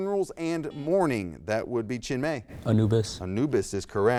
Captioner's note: buzzer beeps